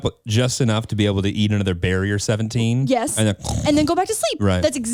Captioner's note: snores